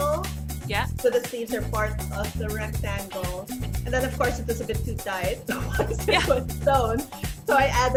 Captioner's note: laughs